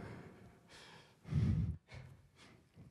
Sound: breath into microphone

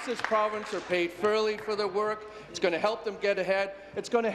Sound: applause

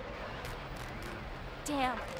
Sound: rumbling

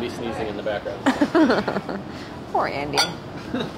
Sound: laughs

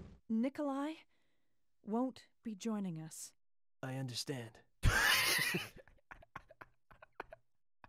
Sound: laughs

